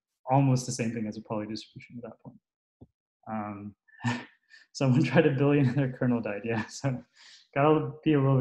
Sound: laughs

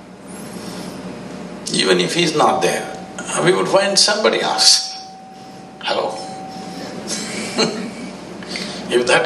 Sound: laughs

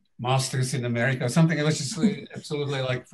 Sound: laughing

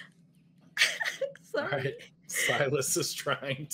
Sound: laughs

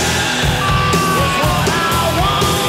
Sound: fan screams

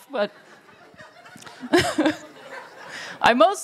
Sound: laughter

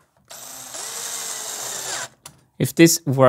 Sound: screwdriver noises

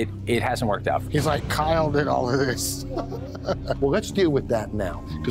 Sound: laughs

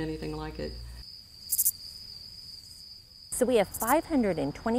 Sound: crickets chirping

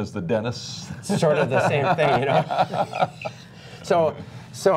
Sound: laughter

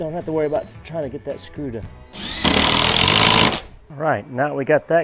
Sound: drill whirring

